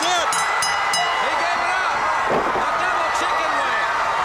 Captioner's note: bell ringing